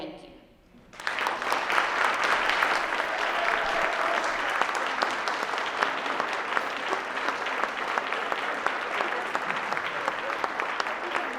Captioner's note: applause